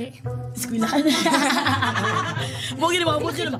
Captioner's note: both laugh